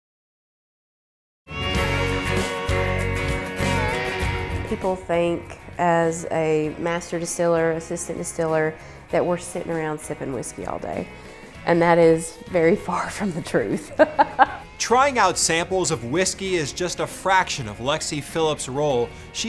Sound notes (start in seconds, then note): 1.5 lively country music; 13.7 chuckling